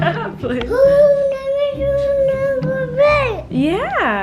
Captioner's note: baby coos